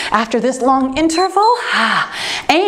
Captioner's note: timer beeps